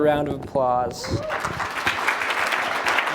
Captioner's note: applause; chatter